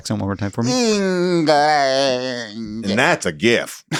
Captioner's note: groaning; laughs